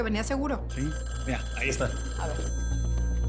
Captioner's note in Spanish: Suena el teléfono